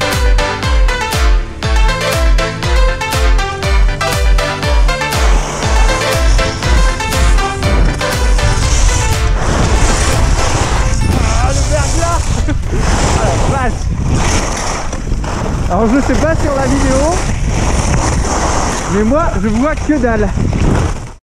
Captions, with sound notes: *screechings* Aaah, icy ! So, I don't know on the video.. but I can't see anything!